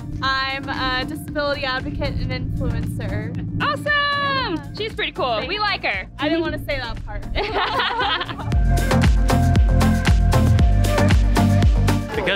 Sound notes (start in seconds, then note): 7.4 laughs; 8.9 upbeat music